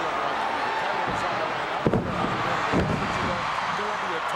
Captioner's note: audience cheering; commentators chattering